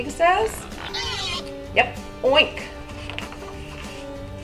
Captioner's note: pig oinks